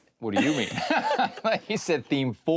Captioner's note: both laugh